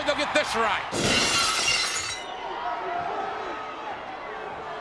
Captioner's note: glass shatters